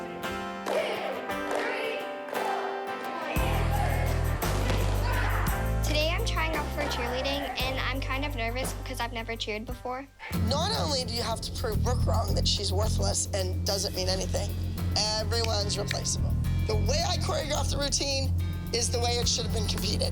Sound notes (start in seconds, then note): 3.1 cheering